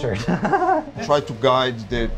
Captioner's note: laughing